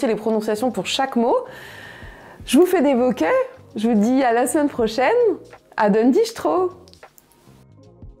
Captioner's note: kisses